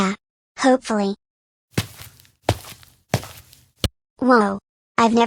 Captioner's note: footsteps